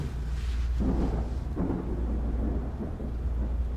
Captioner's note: thunder roars